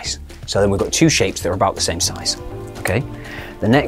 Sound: none

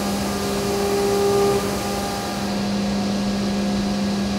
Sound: machine running

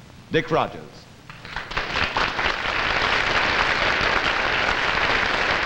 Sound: audience applauding

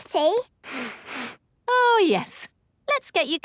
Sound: sniffs

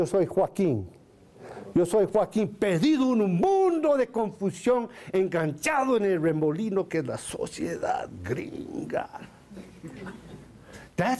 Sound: foreign Language

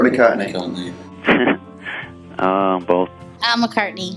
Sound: laughs

